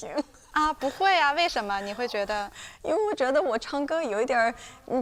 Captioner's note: speaking foreign language